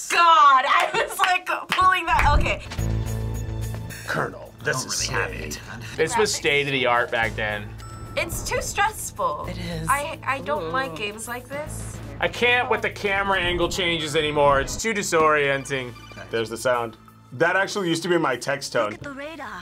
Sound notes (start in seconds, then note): 2.2 tense music; 15.4 phone rings